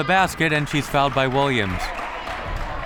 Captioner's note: whistle